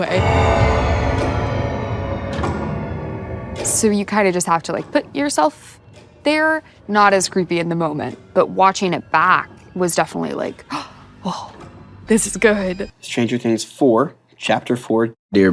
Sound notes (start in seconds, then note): 0.3 dramatic music; 10.7 gasps